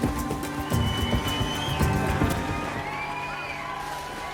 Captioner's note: crowd cheering